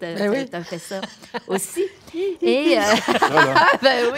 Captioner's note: laughter